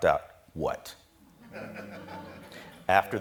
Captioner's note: audience laughing